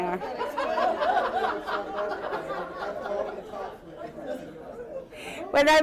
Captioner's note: laughter